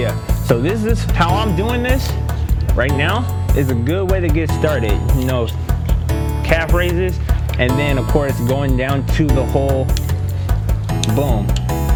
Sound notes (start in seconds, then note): none